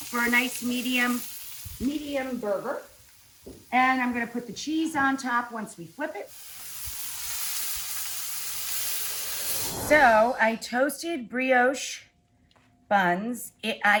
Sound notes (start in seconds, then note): 6.9 burgers sizzling